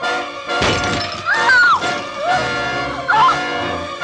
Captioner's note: screams